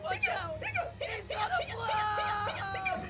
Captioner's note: kiwi hiccupping rapidly